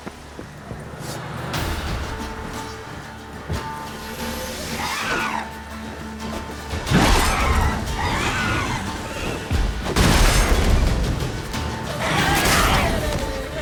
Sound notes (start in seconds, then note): 4.5 harpy screeches; 9.9 Quen shield explodes; 12.7 screech